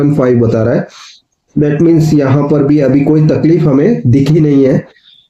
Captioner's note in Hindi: नाक से की जाने वाली आवाज़